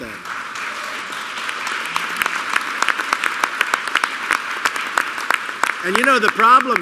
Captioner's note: applause